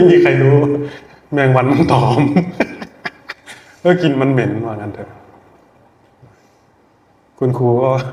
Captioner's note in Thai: เสียงหัวเราะ